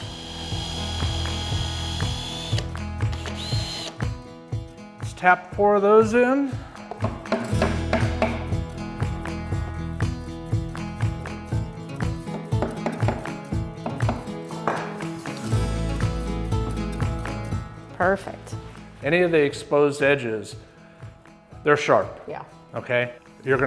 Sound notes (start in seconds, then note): 0.0 drill whirring; 0.1 upbeat music; 7.1 upbeat music; 7.1 wood hammering